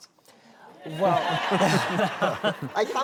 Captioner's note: laughter